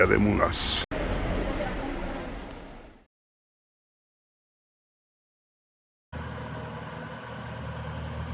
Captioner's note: water tickeling